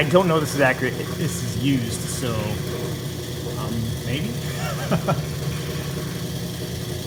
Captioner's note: laughs